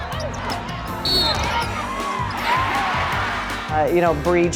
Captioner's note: whistle